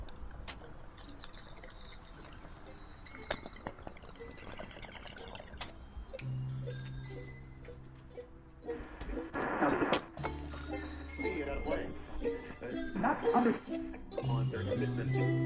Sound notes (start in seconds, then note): 3.0 bong gurgling; 8.7 radio channels changing